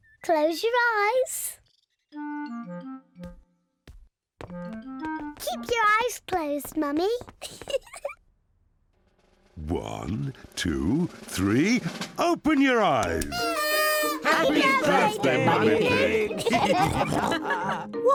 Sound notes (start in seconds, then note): 7.4 giggles; 13.2 party horns blowing; 16.5 all laughing